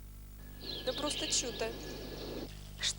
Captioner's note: birdsong